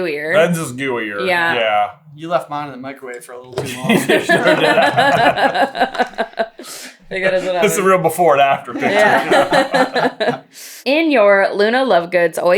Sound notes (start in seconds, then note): 3.6 laughter; 8.2 laughing